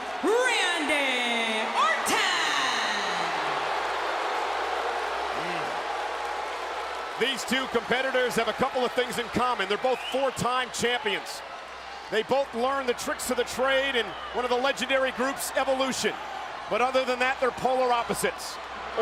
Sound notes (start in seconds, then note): 3.1 audience cheering